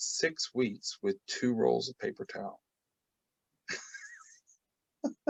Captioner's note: laughs